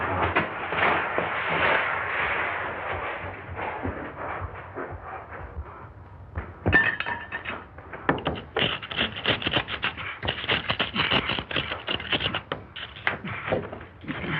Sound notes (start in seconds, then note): 6.7 tool clanging; 6.9 scratching